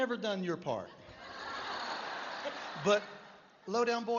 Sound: laughter

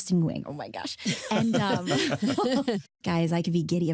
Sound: laughter

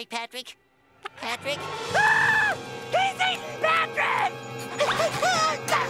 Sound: shrieking

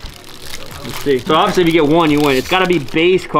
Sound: package crinkling

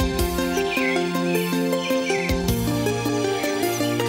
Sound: birds chirping

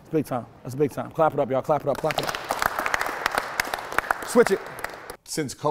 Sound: team claps

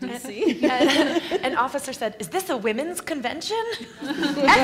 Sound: laughs; laugh

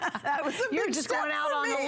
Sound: laughter

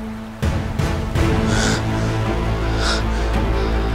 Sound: breathing heavily

